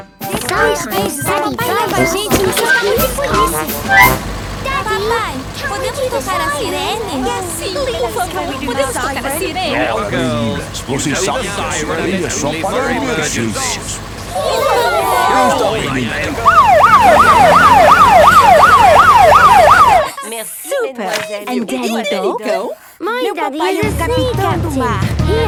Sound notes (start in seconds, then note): 17.0 siren wailing; 18.5 laughing